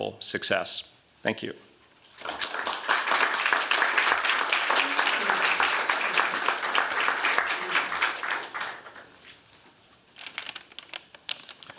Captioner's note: applause